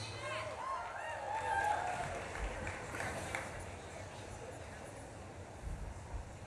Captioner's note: audience claps and cheers